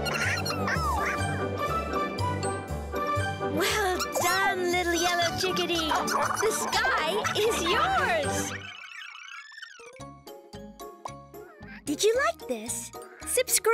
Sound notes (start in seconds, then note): 6.0 all laughing